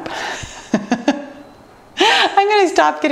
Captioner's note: laughing